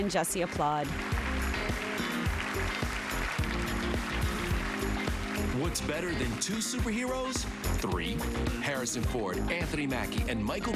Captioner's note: applause